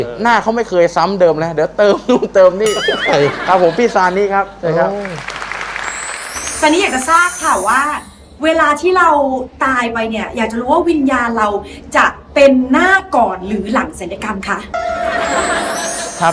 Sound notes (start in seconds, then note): 5.0 applause; 15.0 laughter